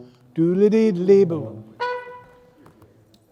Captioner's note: hums